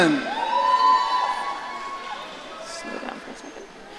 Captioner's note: audience cheering